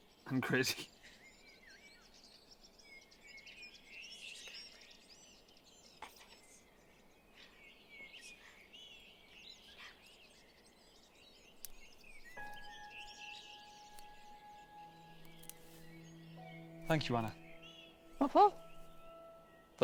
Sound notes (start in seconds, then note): 4.2 birds chirping; 12.9 gentle orchestral music